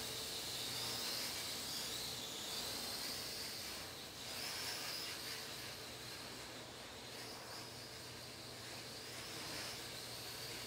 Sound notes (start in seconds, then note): none